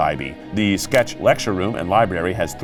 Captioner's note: graphics clicking